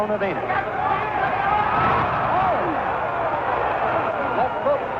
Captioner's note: crowd cheers